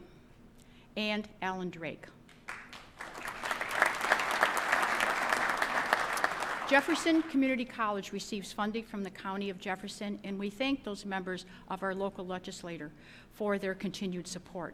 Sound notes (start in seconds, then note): 4.9 applause